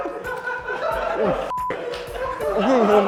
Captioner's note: laughter continues